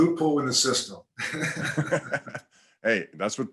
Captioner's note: both laugh